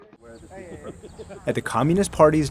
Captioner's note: speaking foreign language